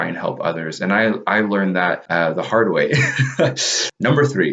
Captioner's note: laughs